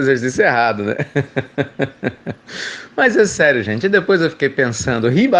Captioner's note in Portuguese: Risos